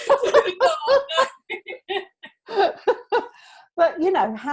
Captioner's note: both laughing